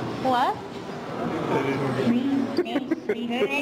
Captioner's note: laughter